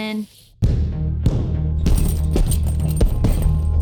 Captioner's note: loud punching